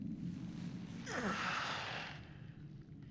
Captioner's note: sighs